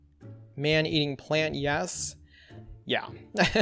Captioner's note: laughs